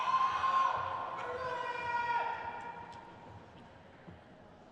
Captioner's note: crowd cheers